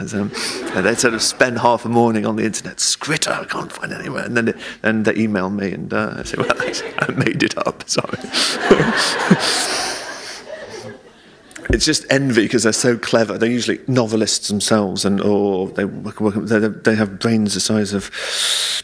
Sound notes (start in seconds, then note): 8.0 laughter